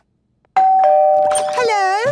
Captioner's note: doorbell ringing